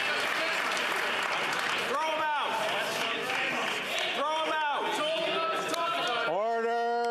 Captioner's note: some Applause